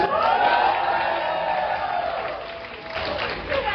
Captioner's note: applause